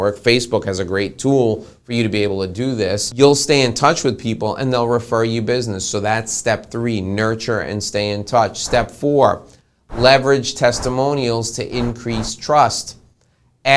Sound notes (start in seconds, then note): 9.9 whooshing